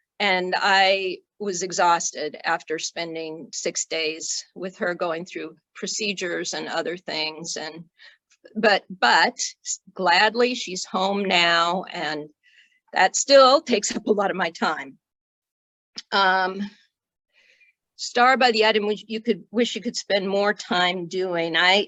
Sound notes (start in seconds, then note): none